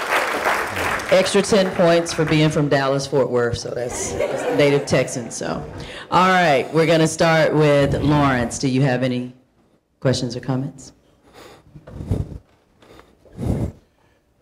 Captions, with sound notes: - Extra 10 points for being from Dallas-Fort Worth, so that's (audience laughing) he's a native Texan, so. All right, we're gonna start with Lawrence, do you have any questions or comments?